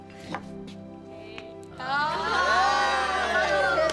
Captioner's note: cheering